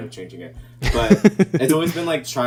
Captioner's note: laughing